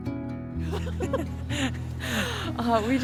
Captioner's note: laugh